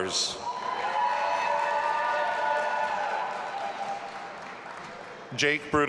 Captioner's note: audience applauding and cheering